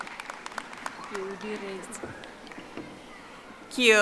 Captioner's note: audience applauding